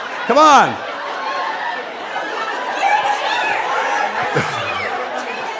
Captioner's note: laughing and yelling